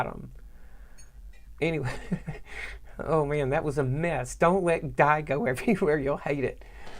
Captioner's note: laughing